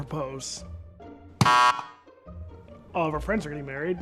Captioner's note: bell buzzing